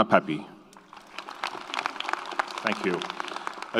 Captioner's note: audience applauds